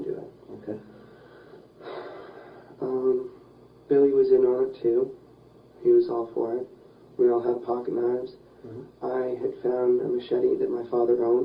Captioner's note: sighs